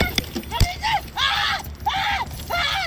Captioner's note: taser pulsating